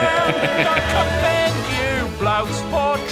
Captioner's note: laughs